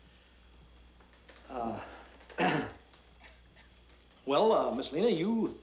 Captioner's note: throat clearing